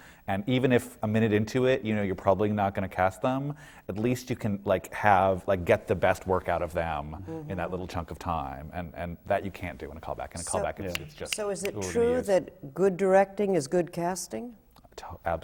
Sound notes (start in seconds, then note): 10.9 snaps his fingers rapidly